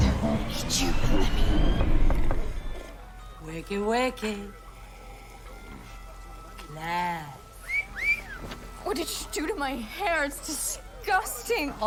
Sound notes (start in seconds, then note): 7.6 wolf whistle